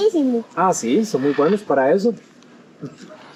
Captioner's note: in Spanish